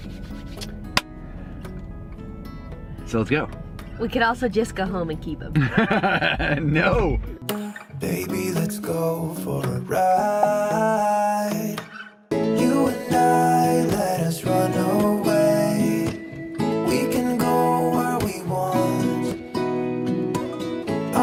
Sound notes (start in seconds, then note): 0.1 claps; 5.5 both laugh